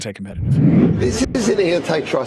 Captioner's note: dramatic whooshing